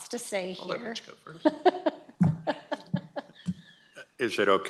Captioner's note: laughs